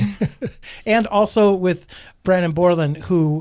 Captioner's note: laughs